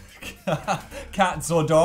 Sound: laughs

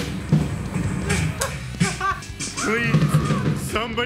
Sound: laughing

